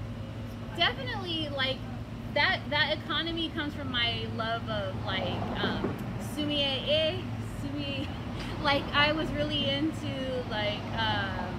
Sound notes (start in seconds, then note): 8.0 laughs to herself